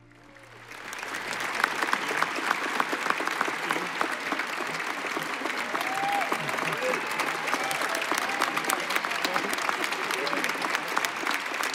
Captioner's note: applause